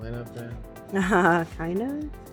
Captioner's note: laughs